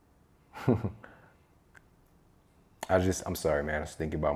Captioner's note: chuckles